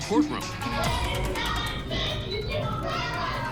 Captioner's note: angry chatter